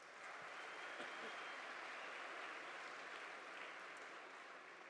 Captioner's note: audience applauding